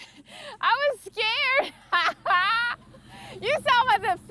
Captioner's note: laughs